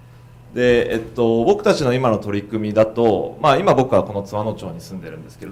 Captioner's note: speaking foreign language